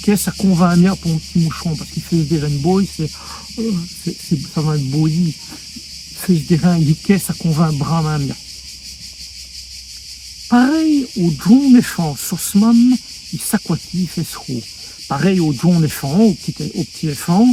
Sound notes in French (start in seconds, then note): 5.8 bâiller